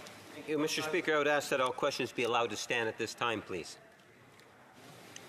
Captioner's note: speaking French